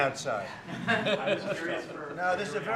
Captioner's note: laughter